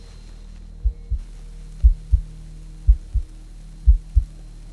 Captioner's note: heart throbbing